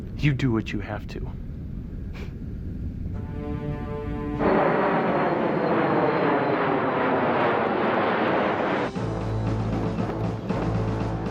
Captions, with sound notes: - You do what you have to. (engine whooshing) (suspenseful music)